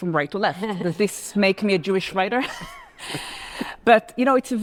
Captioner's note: laughs